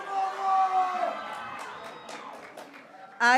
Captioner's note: graduates cheering